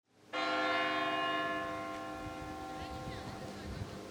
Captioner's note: church bell rings